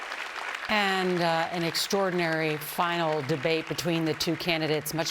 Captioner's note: applause